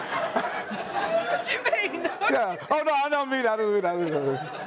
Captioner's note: laughs